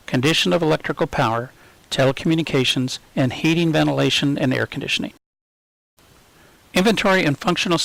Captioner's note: hvac